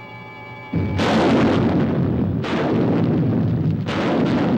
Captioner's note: engine rumbling